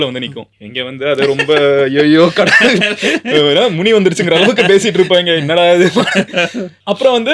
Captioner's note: laughs